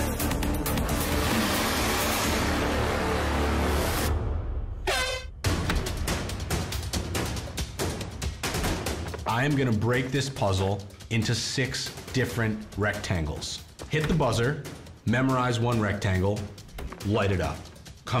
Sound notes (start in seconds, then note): 4.8 air horn sounding